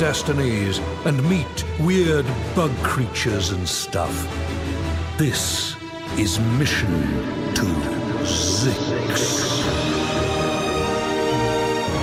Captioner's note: echoing